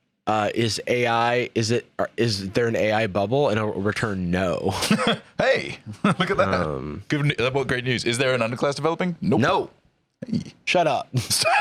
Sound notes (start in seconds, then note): 5.6 laughs